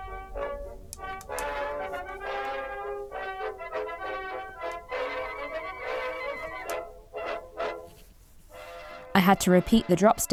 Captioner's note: needles clicking